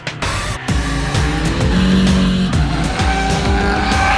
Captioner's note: engine hums